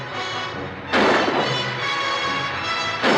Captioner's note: gun firing